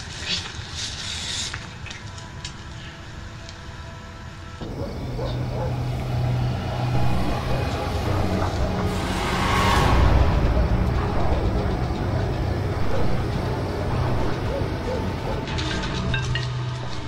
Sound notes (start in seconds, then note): 4.6 dogs barking